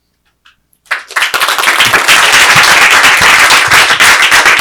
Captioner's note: audience clapping